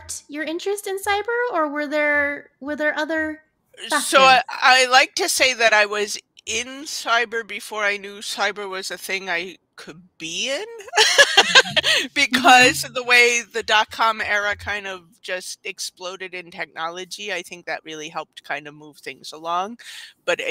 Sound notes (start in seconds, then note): 10.9 laughs